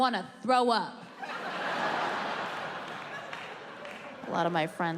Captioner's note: audience laughing